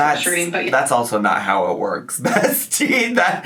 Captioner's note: laughs